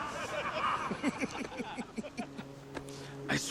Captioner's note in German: Männer lachen